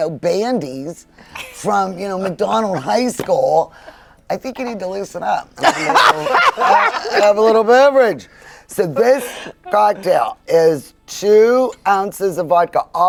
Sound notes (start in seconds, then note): 5.6 group laughing